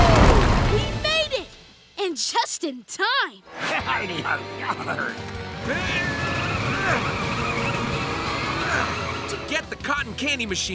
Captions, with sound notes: We made it! And just in time! [bleating] [straining] To get the cotton candy machine,